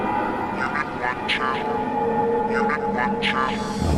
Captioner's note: alarm droning